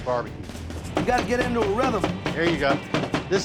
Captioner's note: chopping